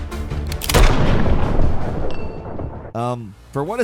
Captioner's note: gunshot bangs